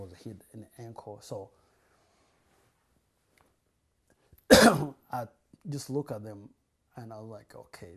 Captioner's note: pauses for 3 seconds